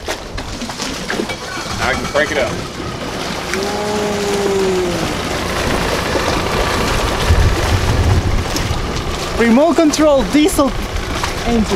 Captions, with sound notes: (motor cranking) Now I can crank it up. - Ooh! Remote control diesel engine.